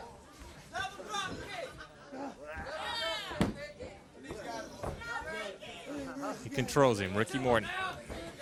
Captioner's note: crowd chatter